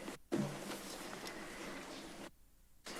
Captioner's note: rustles